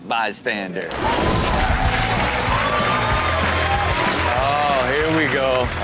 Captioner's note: audience cheers; upbeat music